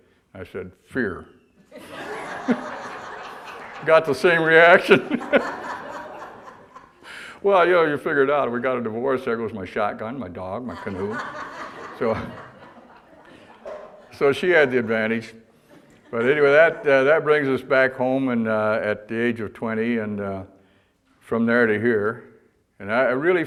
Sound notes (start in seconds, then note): 1.7 audience laughter; 10.6 audience laughter